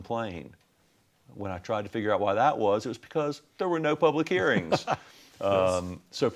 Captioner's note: sounds of laughter